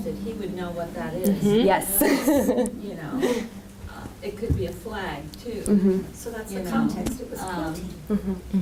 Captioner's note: laughter